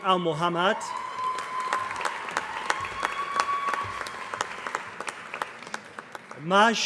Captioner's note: applause